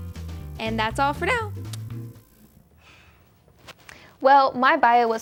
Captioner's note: smooch